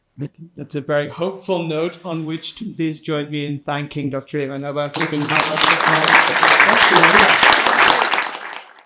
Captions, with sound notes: - Thank you, that's a very hopeful note on which to please join me in thanking Dr. Ivanova. (audience applauding) (applause drowning out speech)